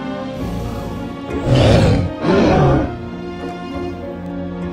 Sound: triceratops Growling; light orchestral music playing

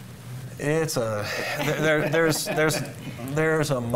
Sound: panelists laughing

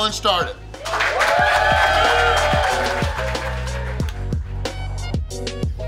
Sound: crowd cheering; crowd applauding; bouncy music

